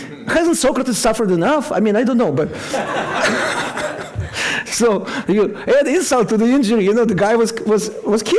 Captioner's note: laughter